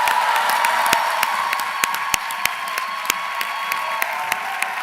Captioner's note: applause